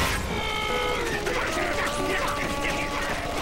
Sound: yelling

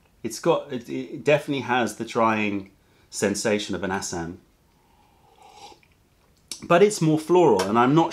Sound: sips tea

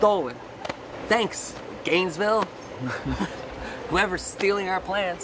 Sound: laughs

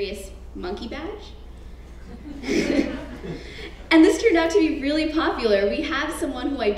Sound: laugh

